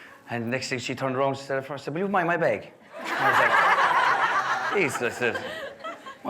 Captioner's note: guests laughing